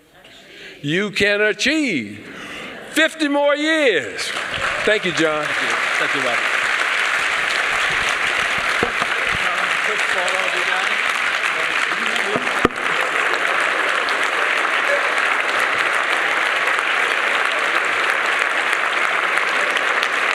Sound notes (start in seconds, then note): 4.1 applause